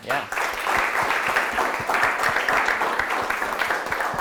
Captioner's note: applause